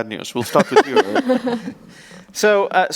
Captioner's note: laughs